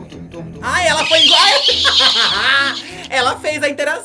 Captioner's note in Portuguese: ambos riem